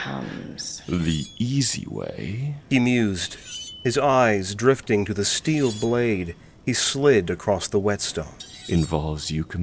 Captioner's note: sharpening sounds